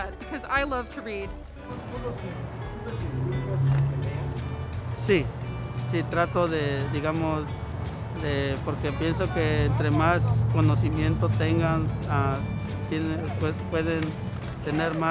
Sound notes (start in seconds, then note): 1.9 Spanish